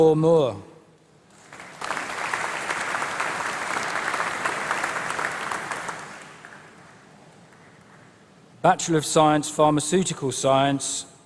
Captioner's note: applause